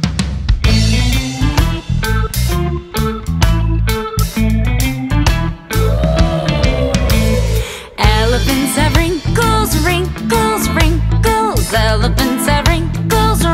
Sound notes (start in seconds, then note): 5.8 elephant roar